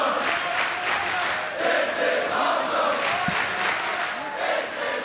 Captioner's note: crowd chants "This is awesome"